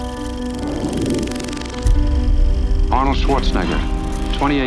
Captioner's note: piano music; film reel rattling